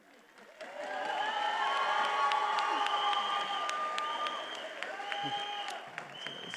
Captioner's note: attendees applauding and cheering